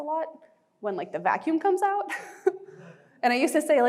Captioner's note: chuckling